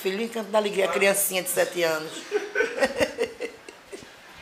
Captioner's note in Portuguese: risos